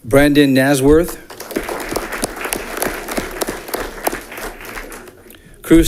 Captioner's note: audience clapping